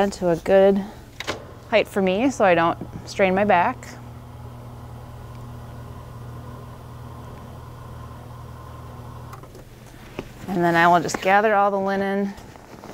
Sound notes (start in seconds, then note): 4.1 bed motor running; 12.2 sheets rustling